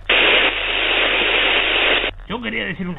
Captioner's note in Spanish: interferencia